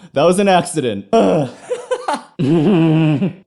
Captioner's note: laughter